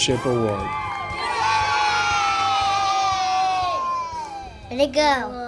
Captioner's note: cheering